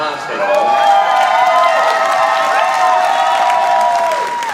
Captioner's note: audience applauding